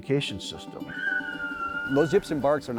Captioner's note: coyote howling